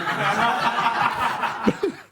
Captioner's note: laughter